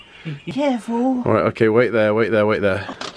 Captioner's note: laughing